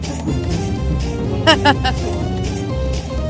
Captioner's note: laughs